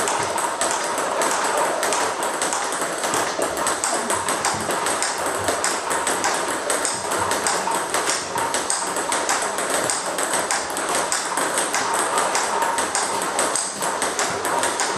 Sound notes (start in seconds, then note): 2.5 ball ping pong hitting continues; 11.5 ball ping pong hitting continues